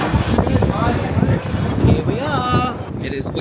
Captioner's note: wind blusters